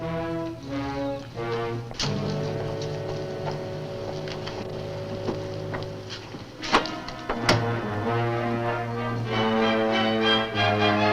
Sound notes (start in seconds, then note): 6.6 lock clacks; 7.4 dark music continues